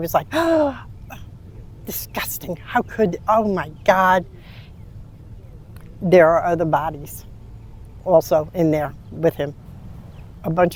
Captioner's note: gasping